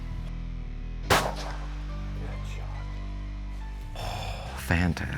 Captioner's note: gun shot firing